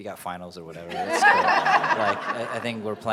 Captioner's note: laughing